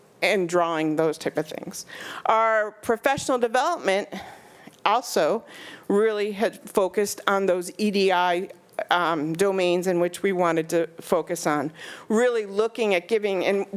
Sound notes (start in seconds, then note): none